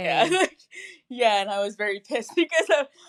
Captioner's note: loughs